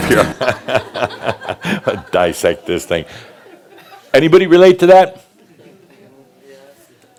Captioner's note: laughter